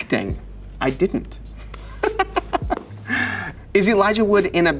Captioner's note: laughs